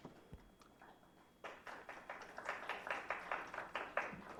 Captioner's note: applause